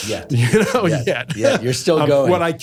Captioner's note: laughs